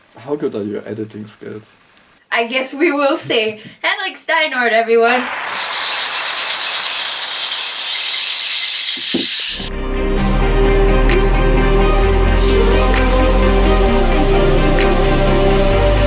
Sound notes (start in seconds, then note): 5.0 stock applause